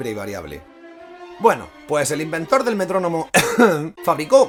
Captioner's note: ahem